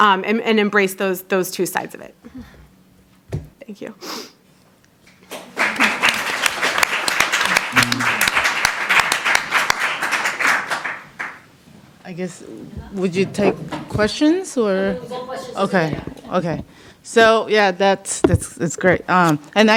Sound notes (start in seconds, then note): 5.2 applause